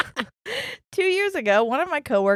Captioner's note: laughing